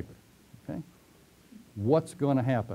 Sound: pause

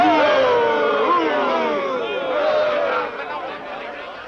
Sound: men booing

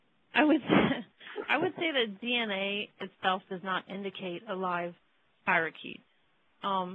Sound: laughing

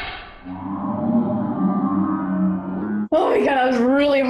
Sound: man groans in slow motion

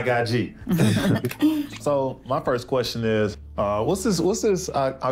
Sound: everyone laughs

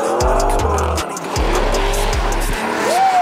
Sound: engine roaring

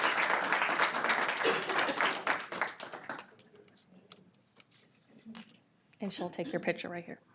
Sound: applause

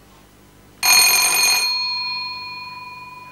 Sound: doorbell

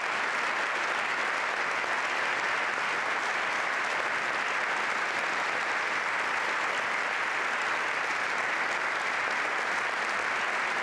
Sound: applause

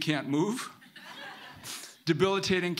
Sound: audience laughing

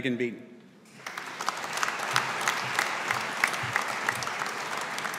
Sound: audience applauding

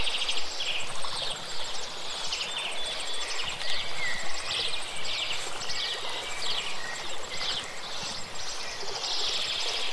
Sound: water, tragic music

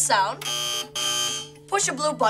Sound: buzzer ringing

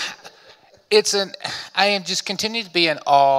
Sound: audience laughing; sighs

